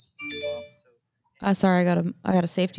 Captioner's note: phone chimes